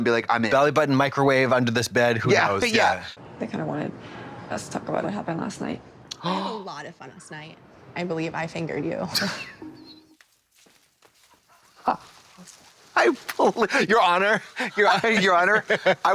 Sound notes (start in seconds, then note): 9.1 blonde Women clutch and cachinnate